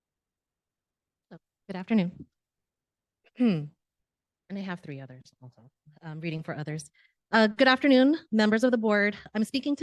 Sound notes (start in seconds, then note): 3.4 clears throat